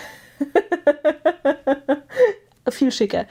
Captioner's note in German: gelächter